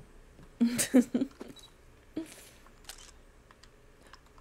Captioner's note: laughs